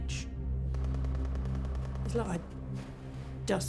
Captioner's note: distant gun fires rapidly